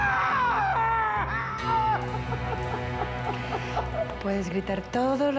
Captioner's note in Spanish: llanto